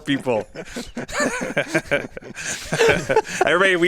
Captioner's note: all laugh